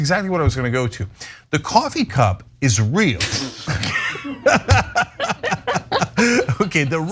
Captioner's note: laugh